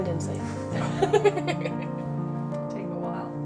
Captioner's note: laughing